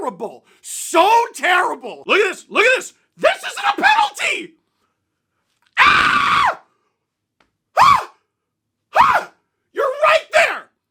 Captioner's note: banshee SCREAM